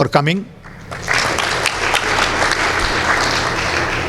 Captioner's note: applause